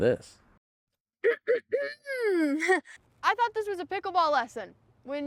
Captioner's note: clears throat